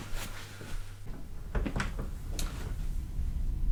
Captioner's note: door opening